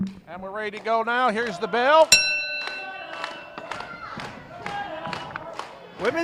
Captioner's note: bell sounds